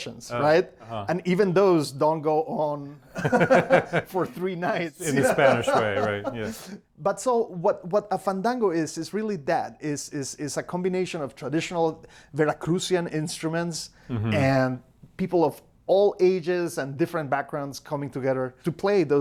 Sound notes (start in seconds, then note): 3.1 both laughing